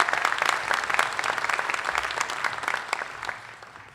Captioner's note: applause